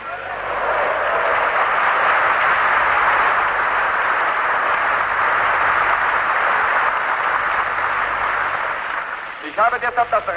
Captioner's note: applause